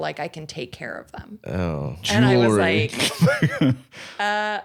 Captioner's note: laughs